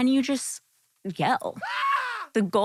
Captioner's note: man screaming